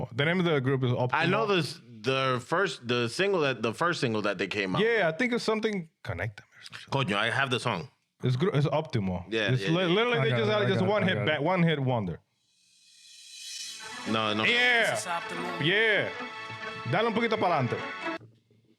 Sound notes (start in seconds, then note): 13.0 upbeat Music; 17.2 speaking In Foreign Language